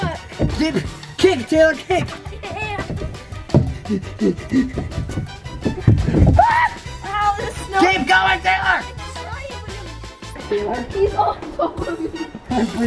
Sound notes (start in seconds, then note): 3.1 anxious breathing; 11.4 laugher